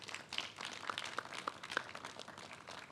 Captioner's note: clapping